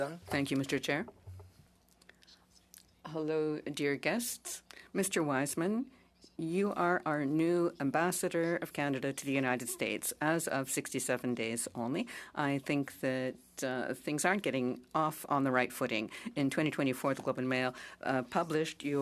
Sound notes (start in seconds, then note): 8.3 speaking French